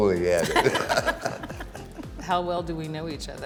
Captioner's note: both laughing